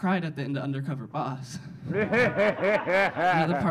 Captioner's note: audience laughing